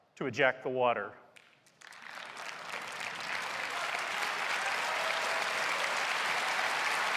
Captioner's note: applause